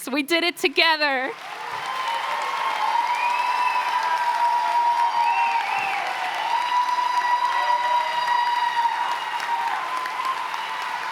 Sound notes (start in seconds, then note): 1.5 cheers and applause